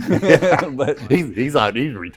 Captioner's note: laughter